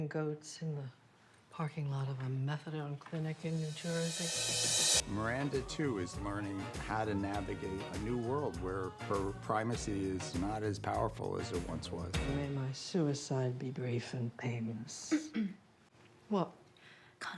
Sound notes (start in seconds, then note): 15.2 clears throat